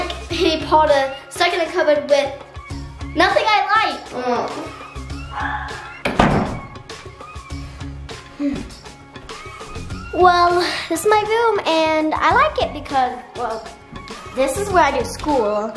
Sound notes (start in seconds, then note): 4.1 groaning; 5.7 door closing; 7.6 soft music